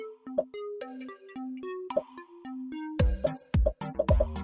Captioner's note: upbeat music; popping